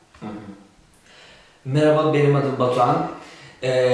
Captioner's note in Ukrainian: Говорить турецькою